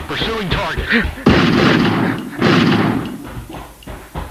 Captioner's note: gunshots